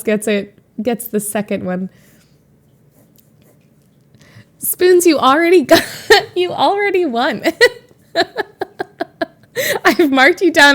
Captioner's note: Emma laughs